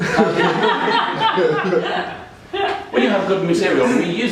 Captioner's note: audience laughing